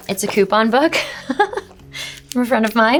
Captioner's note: Shailene laughs